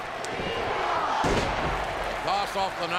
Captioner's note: crowd chanting; mat thumping